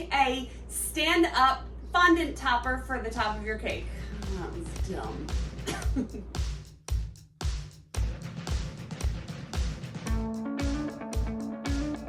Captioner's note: laughing